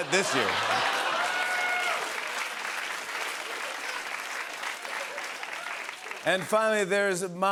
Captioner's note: cheers and applause